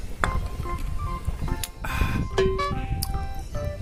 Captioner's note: ahhhhh